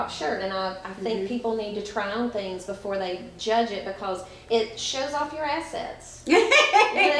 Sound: laughs

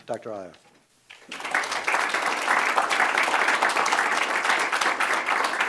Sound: audience clapping

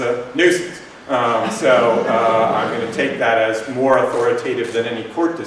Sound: laughter

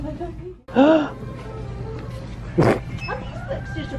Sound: gasp

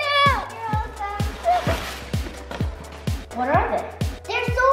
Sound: paper ruffling

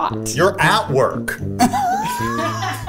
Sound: all laugh

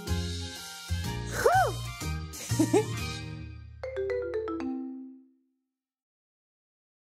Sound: laughs

